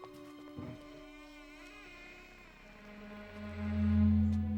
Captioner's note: door creaks; suspenseful orchestral music